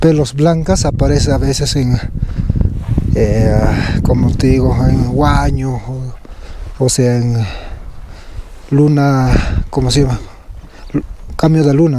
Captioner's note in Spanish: carraspeo